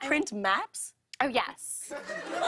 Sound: laughter

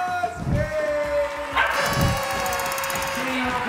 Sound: party horn

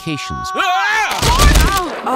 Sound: kleiner and rochelle both screaming

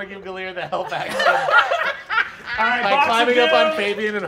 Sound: all laughing

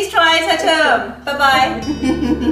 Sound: happy laughter

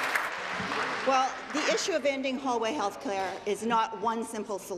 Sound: applause

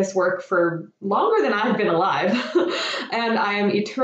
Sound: laughs

